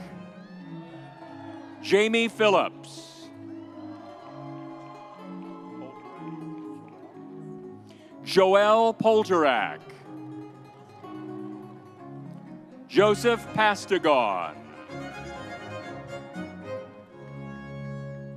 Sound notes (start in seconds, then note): 0.7 soft music continues; 3.2 audience cheers; 10.1 soft music continues; 15.0 soft music continues